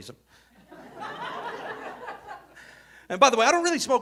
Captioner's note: audience laughing